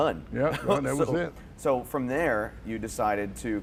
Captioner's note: laughter